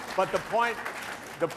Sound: applause

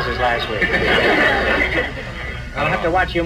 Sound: audience laughs

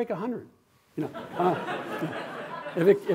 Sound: laughter

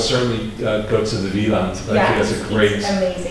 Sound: foreign language

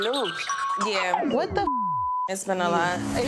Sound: beep

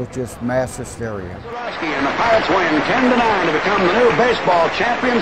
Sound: announcer talking

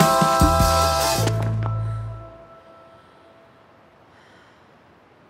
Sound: all breathing deeply

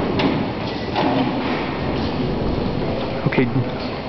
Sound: clunk

